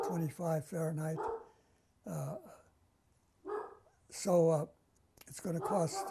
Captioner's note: pauses for 3 seconds